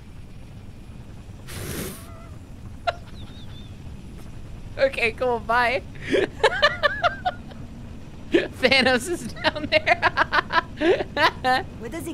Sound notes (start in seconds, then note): 2.8 laughing; 11.3 laughing